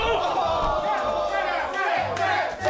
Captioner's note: yelps; cheering